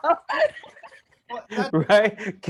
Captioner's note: all laugh